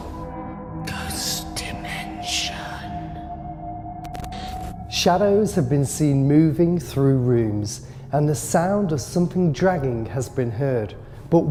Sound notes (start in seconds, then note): 1.4 ghostly Voice